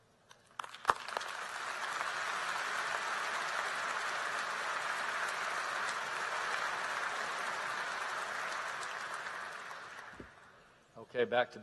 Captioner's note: applause